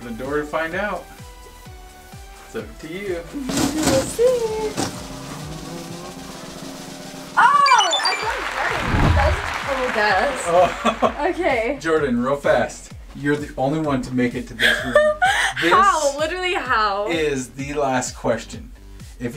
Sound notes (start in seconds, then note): 6.4 drum roll; 7.5 high-pitched beeps; 10.4 laughs